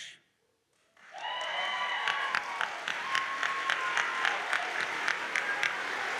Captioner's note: audience cheers and applauds